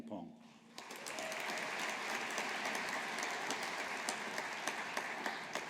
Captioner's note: audience applauding